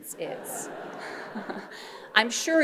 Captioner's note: audience laughing